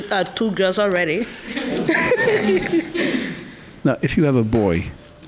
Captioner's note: laughing